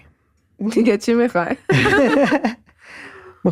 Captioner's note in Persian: خنده